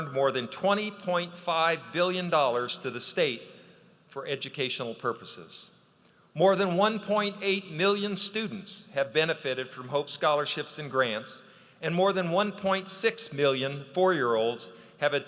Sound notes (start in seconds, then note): none